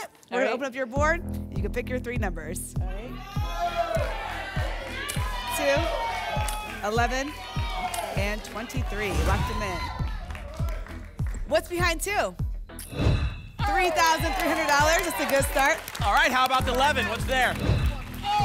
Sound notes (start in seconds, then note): 3.1 audience shouting numbers; 9.5 applause and cheering; 12.8 whoosh; 17.5 whoosh